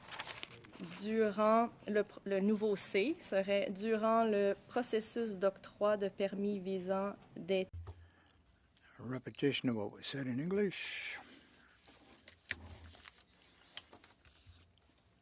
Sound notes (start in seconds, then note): 4.5 speaking French